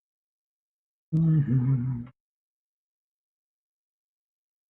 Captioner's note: humming